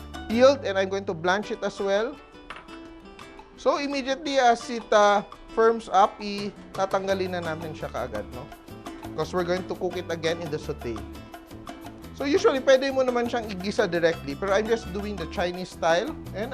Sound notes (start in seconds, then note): none